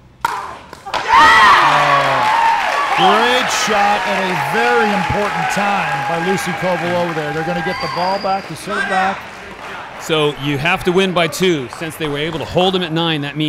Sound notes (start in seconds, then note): 1.2 audience cheering